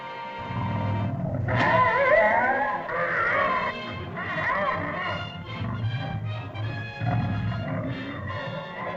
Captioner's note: suspenseful music; dinosaur yelps & squawks; suspenseful music